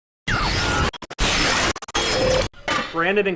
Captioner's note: static